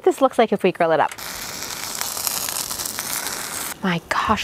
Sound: tortilla sizzling

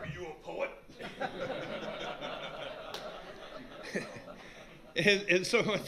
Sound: laughter

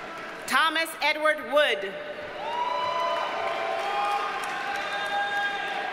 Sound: audience cheers and applauds

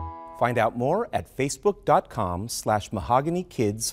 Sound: outro music; voiceover

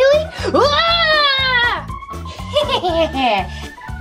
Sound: screams

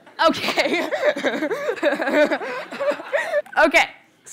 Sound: laughter

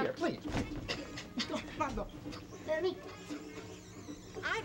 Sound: Ken, giggling

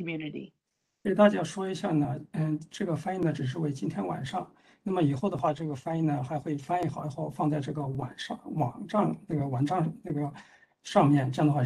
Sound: speaks in Mandarin

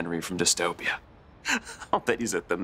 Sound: chuckles

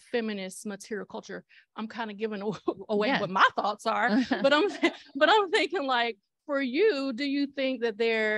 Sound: laughter

